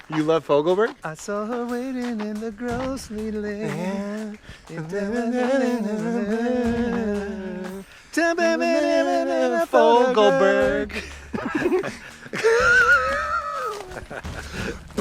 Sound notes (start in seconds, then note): 1.4 sings; 4.5 mumbling song tune; 10.3 laughing